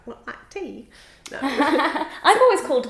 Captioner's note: laughing